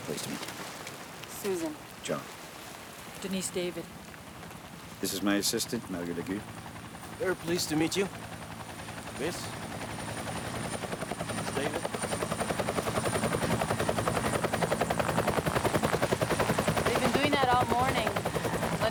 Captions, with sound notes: - Pleased to meet you. - Susan. - John. - Denise David. - This is my assistant, Mario Legault. - Very pleased to meet you. Miss, Miss David. (helicopter thrumming) - They've been doing that all morning.